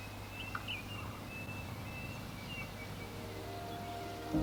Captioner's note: birds chirping